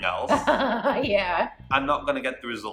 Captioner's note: laughing